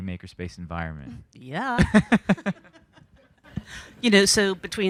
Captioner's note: panelists laughing